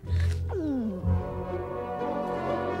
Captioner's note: gulp